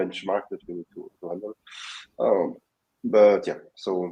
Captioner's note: mumbling